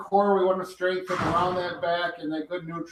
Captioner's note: door closes